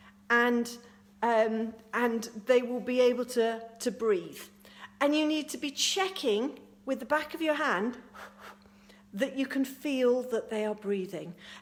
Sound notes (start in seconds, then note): 8.1 blows